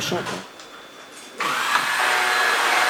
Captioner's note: machine drone